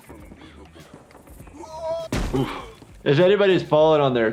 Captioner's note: guy screaming; body thuds